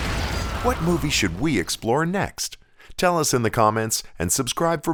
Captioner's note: gun bangs